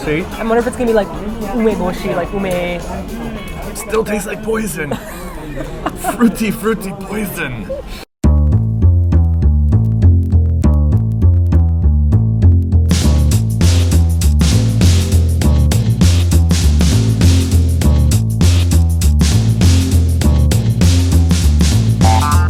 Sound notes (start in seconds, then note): 4.9 laughs; 8.2 jazzy bass line